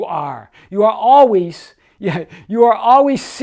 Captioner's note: chuckles